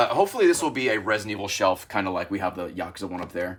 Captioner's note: none